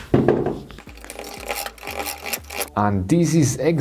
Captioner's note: machine whirring